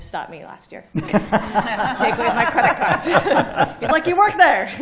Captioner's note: laughter